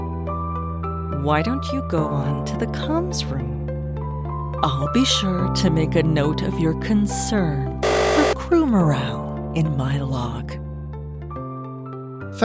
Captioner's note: buzzer